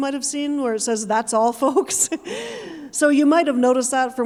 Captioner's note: chuckling